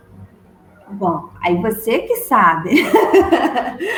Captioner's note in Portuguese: risos